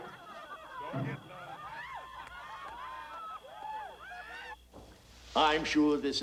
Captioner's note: people laughing in background